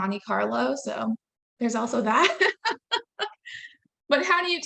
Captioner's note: laughing